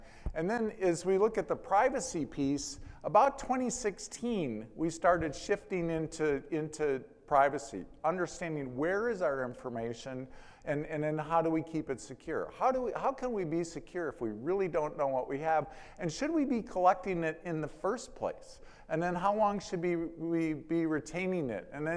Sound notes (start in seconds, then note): none